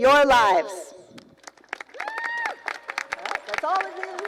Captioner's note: applause